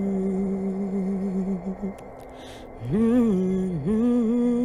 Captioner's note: melodic humming